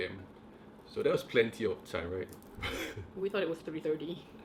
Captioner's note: laughs